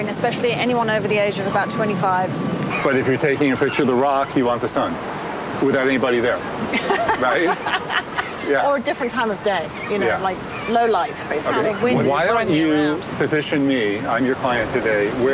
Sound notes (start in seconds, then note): 6.6 laughs